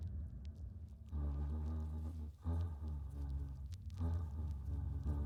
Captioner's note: humming